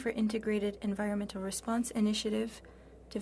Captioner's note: speaking French